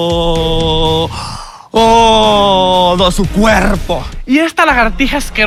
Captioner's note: deep breath